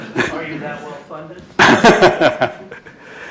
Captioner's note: laughter